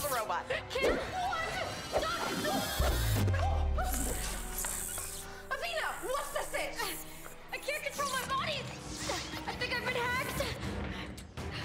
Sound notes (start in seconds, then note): 3.8 whirring